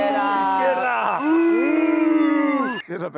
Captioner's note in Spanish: abuchean